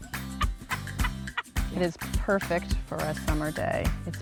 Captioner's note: upbeat music; screaming and laughing